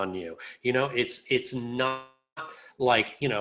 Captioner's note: audio distorts